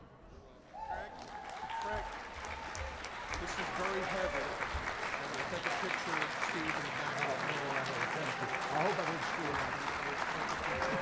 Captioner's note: applause